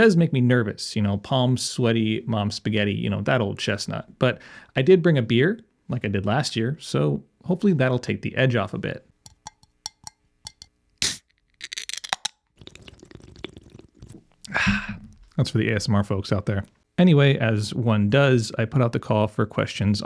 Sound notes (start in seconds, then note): 9.2 tapping lid; 11.5 can Opening; 12.6 slurrpin' it